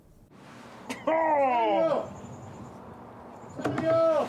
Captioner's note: Samuel groaning